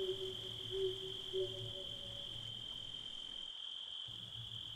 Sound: owl hooting. Insects’ shrill call

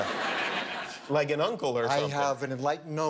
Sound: laughter

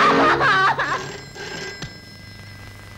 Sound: phone Ringing

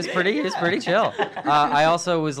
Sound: laughs

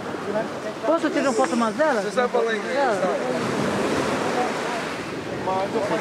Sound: speaking foreign language

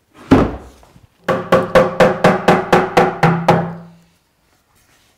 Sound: case thuds; hammer knocks

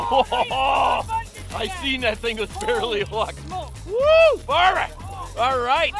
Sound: yelling and cheering

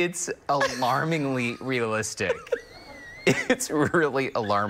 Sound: laughter

